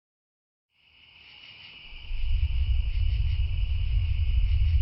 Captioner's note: insects chirping; eerie music